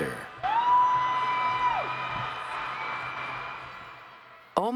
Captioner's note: cheers